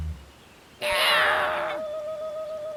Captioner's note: roar